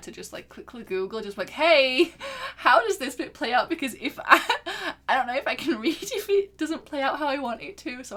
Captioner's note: laughs